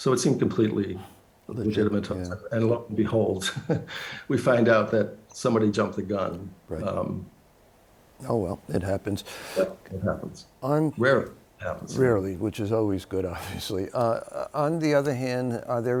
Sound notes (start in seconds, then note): 3.4 laughs